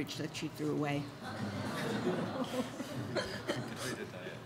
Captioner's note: audience laughs